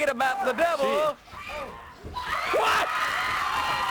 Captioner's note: crowd cheering